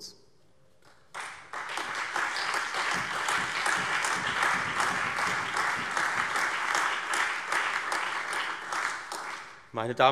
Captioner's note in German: Allgemeiner Beifall